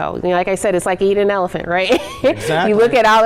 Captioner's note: laughs